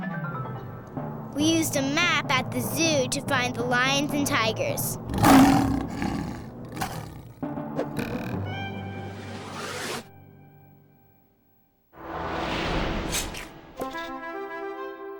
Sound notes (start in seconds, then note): 4.8 roar